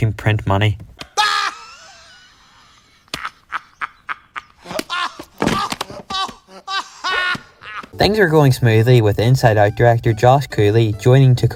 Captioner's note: Woody laughing